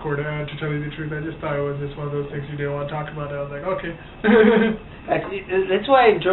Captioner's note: laughs